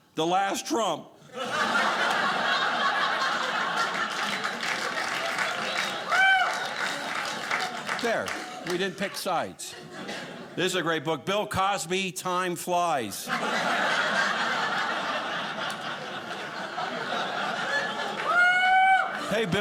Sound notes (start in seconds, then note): 1.3 audience laughing; 5.4 audience cheering; 13.2 audience laughing